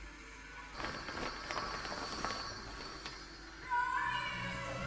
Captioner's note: tarp rustling